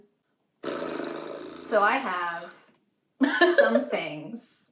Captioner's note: sigh